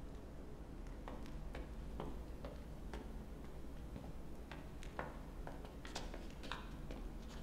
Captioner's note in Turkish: Ayak sesi